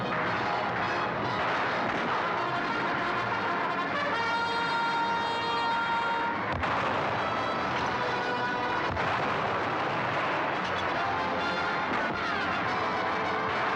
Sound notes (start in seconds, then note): 6.5 cannon firing; 11.2 dramatic music; 11.2 gunfire